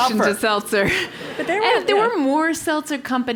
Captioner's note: laugh